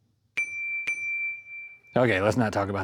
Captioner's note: bell Dings